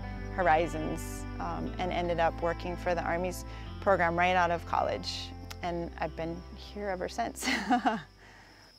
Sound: laugh

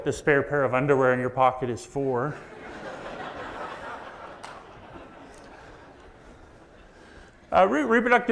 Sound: audience laughs

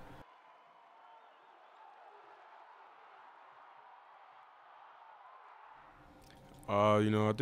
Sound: cheering

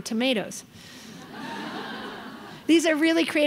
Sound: crowd laughing

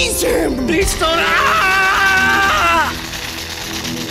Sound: brzzzzt

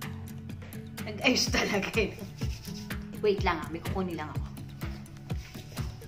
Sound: laugh!!!

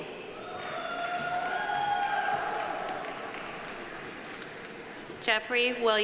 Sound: audience cheering; audience applauding

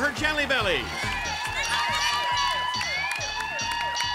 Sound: siren

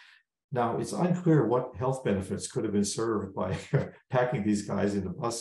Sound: laugh

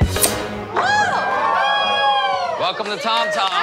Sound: cheers and applause

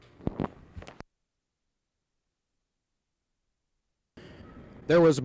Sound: silence

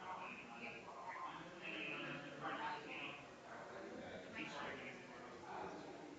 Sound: people chattering distantly continues

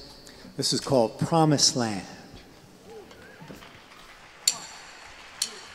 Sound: audience applauding

